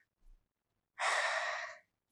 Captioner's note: big sigh; 大叹气